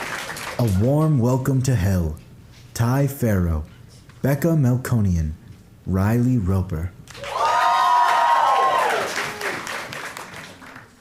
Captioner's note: applause